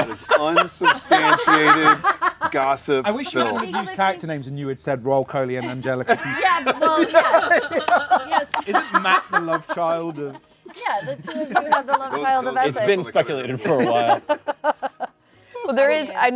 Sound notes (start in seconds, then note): 5.6 laughter; 14.5 laughter